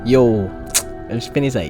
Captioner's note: tongue smack